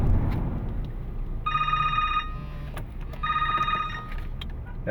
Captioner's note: phone rings